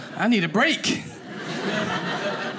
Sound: audience laughing

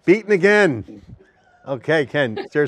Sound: both laugh

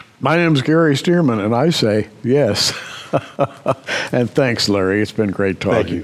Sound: chuckles

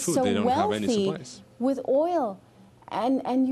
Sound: speaking spanish

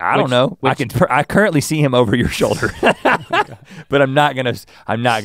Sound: laughs

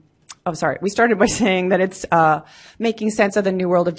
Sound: laughs

